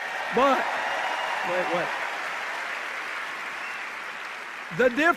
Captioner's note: cheers and applause